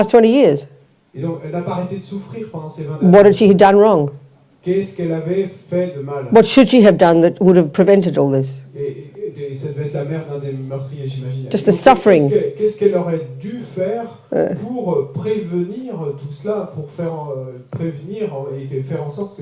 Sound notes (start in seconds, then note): 0.1 French; 8.1 French